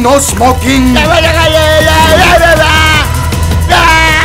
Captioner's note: Screaming